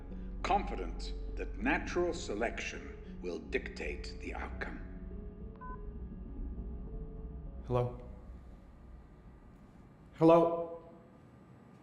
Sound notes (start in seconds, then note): 4.9 beeps